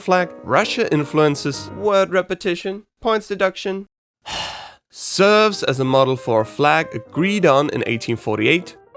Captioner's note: sigh